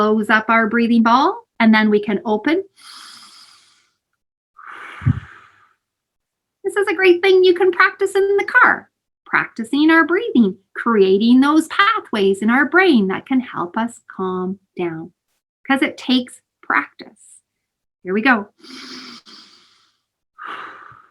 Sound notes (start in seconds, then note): 6.2 deep inhale and exhale